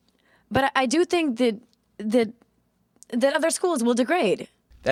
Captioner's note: stuttering